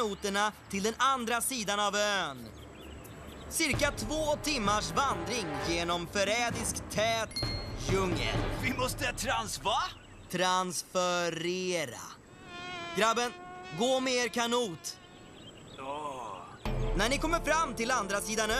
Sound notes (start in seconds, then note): 9.8 fly buzzing